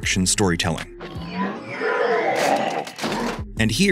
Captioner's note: groans